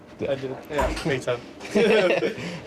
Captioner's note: chuckles